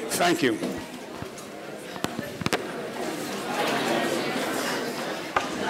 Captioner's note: people conversing